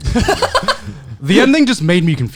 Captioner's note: laughing